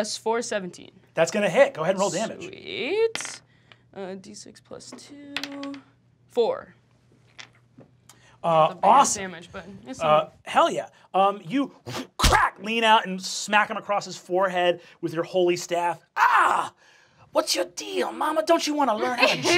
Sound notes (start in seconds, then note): 16.2 shouts